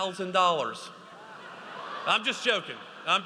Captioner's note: audience laughs